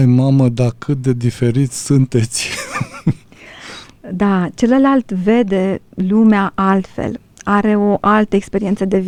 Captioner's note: laughter